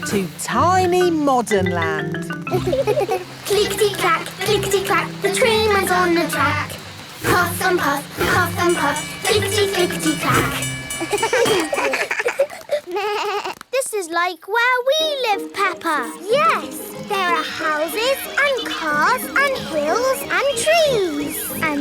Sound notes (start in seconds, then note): 2.5 laughing; 10.9 all laugh